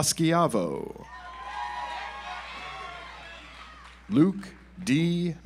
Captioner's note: audience applauds